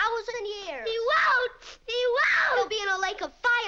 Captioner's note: screaming